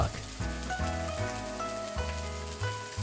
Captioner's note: Wagyu beef sizzles